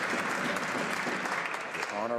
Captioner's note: some Applause